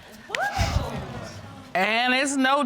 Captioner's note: audience gasps